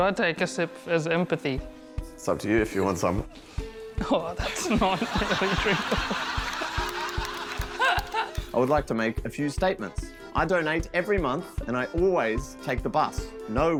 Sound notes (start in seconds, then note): 4.6 laughs; 7.0 laughter